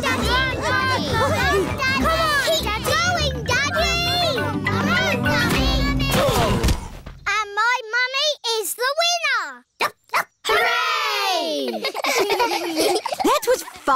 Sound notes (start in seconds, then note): 6.6 groaning; 10.3 barks; 11.6 giggling